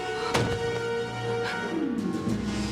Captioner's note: thud!